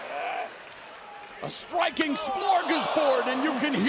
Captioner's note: crowd cheering